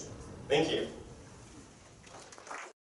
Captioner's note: crowd applauding